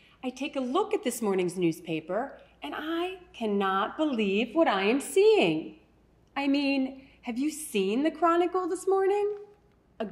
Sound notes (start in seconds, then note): none